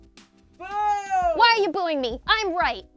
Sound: booing

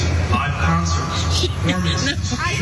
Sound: laugh

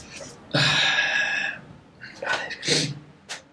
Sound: sigh!

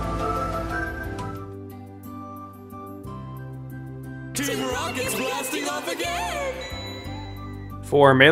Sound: music; star ding sound

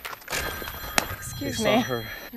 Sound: phone rings

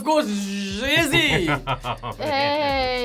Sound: laughs

